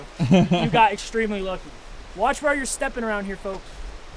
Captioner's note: Thomas laughs